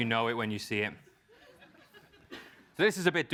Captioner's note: laugh